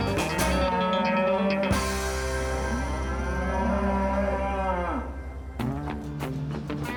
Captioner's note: cow moos